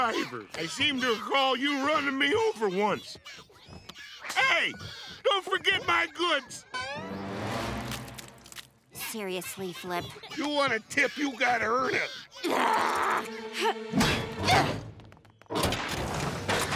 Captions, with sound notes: I seem to recall you running me over once. Hey, don't forget my goods! Seriously, Flip? You want a tip, you got gotta earn it. [groaning] [grunting]